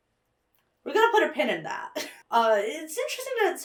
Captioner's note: chuckles